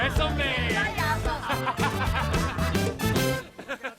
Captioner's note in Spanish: Risas